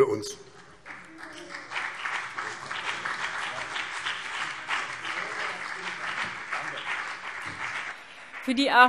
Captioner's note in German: Beifall BÜNDNIS 90/DIE GRÜNEN und CDU